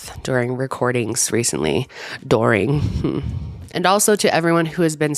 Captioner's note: huffs